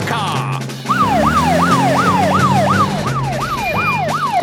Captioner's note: siren wailing